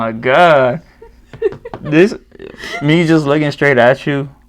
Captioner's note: laughs